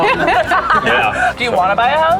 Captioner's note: laughing